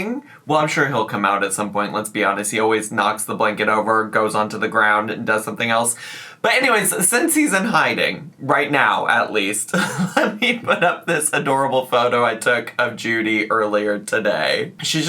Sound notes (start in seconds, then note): 9.7 laughs